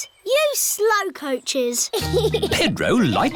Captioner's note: giggles